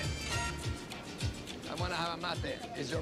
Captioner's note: in English